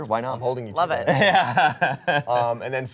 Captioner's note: laughs